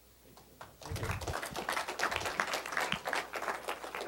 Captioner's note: applause